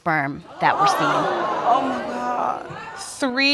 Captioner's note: audience exclaim